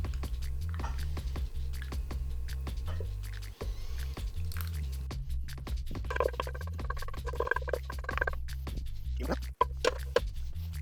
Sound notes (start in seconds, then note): 2.1 gravy pouring